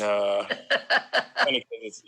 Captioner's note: laughs